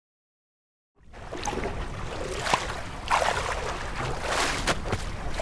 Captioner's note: water sloshing